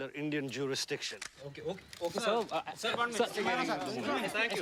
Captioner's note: overlapping chatter